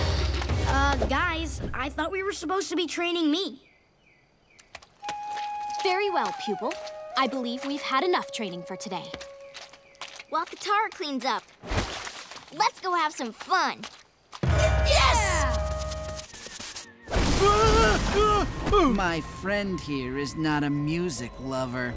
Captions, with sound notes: Uh, guys, I thought we were supposed to be training me. Very well, pupil. I believe we've had enough training for today. While Katara cleans up... let's go have some fun. - Yeah! - Yes! [groaning] My friend here is not a music lover.